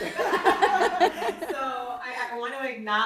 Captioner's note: laughing